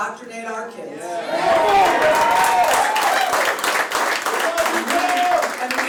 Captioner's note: applause